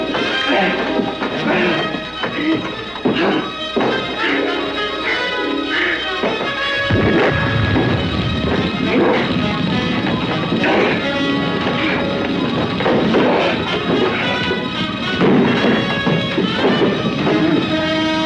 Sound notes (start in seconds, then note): 6.8 chemicals exploding; 8.6 scuffling